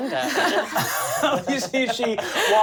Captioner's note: laughing